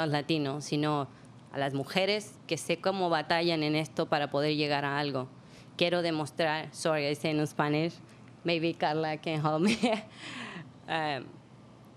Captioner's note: speaking spanish